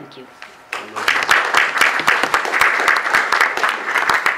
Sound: clapping

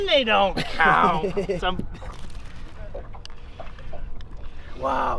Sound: laughs

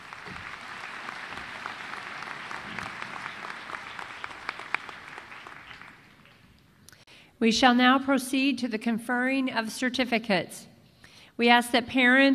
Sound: applause

